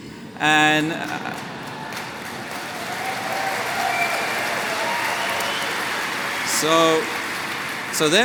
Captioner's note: cheering